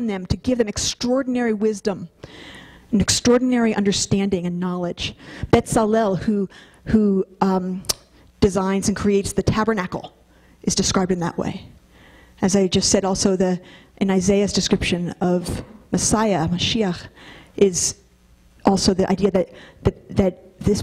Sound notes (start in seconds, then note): none